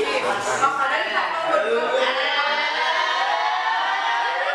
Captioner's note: laugh